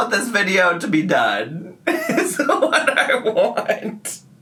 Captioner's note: laughs